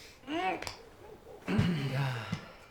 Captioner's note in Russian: кряхтит